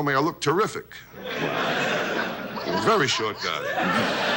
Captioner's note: audience laughs